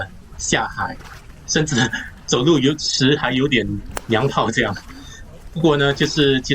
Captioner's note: haha